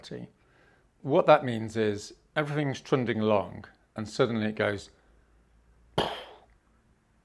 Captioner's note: aggressive exhale